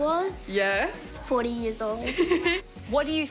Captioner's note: laughs